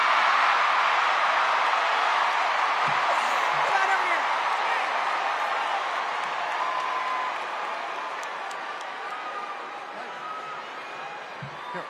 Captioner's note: cheers and applause